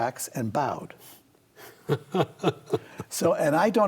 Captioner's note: laughs